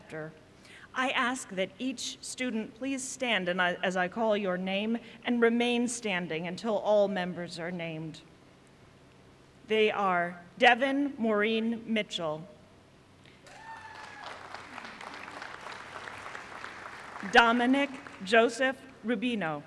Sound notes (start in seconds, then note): 13.4 applause